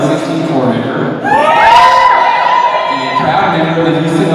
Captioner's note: cheers